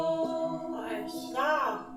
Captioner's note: bell